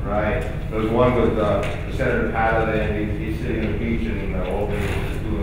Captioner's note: mumbles